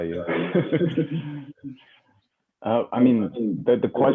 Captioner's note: laughter